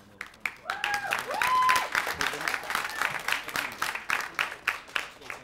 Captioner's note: audience cheering; non-english speech